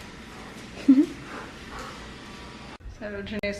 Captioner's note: giggle